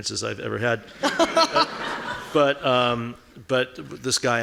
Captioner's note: laughing